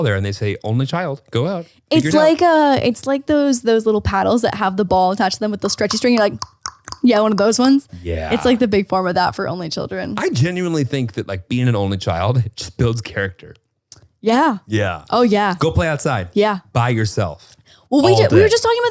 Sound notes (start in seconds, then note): 7.4 clicking